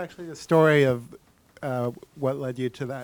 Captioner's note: deep Voice